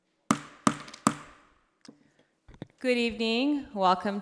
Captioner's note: gavel banging